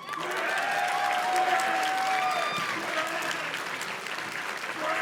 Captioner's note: audience cheers and claps